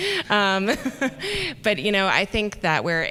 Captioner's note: chuckle